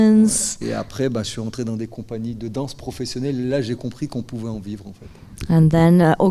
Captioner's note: speaking in French